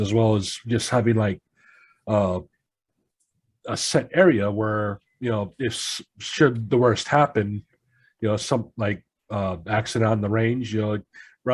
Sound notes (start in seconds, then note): none